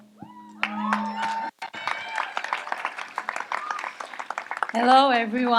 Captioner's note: audience applauds and cheers